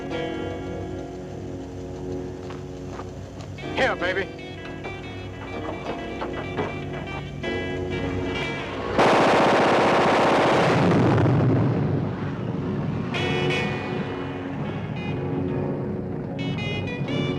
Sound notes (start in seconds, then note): 8.9 machine gun firing; 9.8 gas tank exploding; 13.7 intense dramatic music